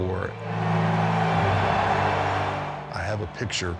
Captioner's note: audience cheering